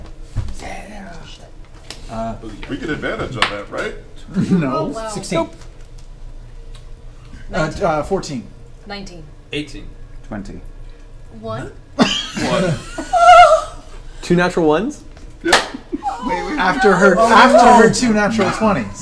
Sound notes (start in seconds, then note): 12.0 all laugh